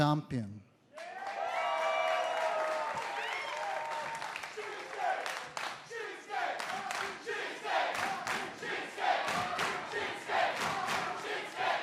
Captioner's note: crowd cheering